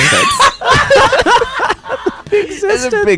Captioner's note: laughs